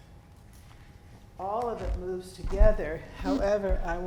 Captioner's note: floor squeaking